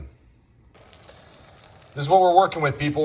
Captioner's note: food sizzling